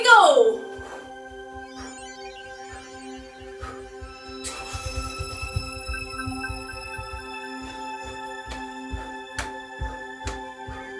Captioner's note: electronic space sounds